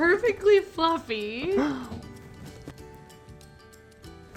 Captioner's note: laughs